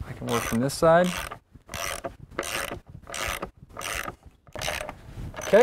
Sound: clicking of ratchet, no additional audio

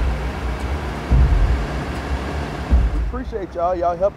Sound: fire truck idling

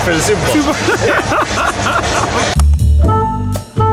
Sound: laughing; jazz music

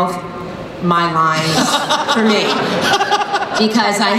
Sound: laughter

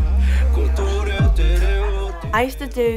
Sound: family chattering

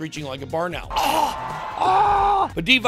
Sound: screeches

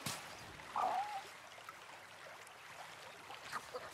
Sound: turtle coos

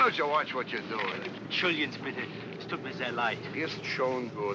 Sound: apologizing in German; speaking kindly in German

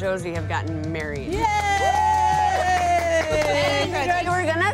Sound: cheers and clapping

